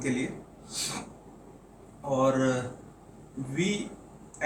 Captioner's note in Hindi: नाक से की जाने वाली आवाज़